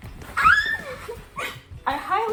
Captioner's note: happy squee!